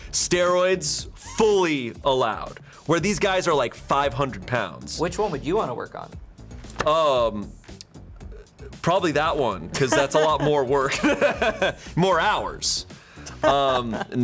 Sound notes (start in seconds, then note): 9.7 laughs